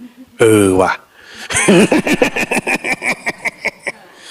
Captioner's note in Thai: เสียงหัวเราะ